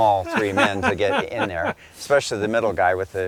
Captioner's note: laughing